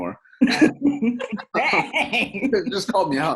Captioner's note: all laugh